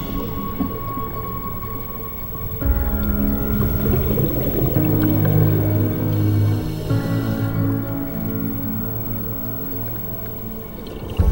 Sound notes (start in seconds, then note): 4.7 air regulators bubbling